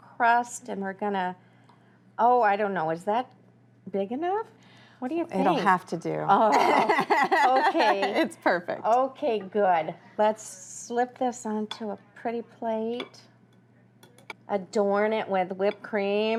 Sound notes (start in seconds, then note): 6.5 laughs